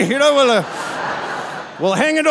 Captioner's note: audience laughing